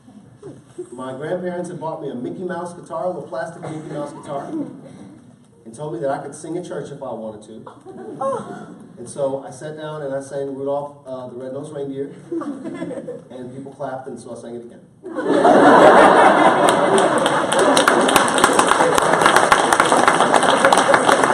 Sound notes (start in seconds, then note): 15.1 applause